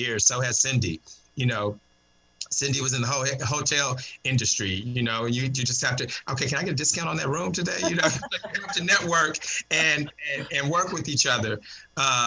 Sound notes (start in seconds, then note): 7.6 laughter